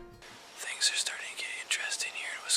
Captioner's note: whispering